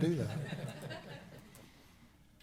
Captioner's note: laughter